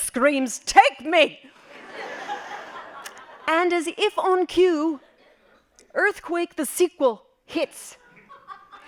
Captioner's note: laughing